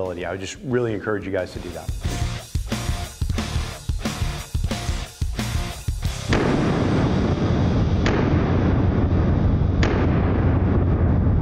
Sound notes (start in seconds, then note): 2.1 upbeat music; 6.1 gunshot sound